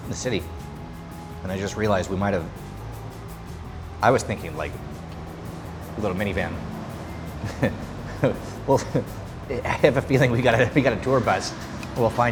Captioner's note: laughing